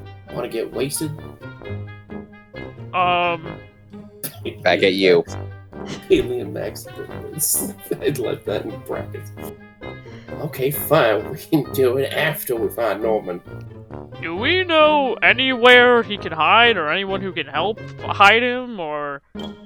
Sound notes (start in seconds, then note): 4.2 chuckles